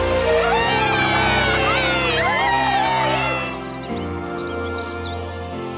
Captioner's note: cheering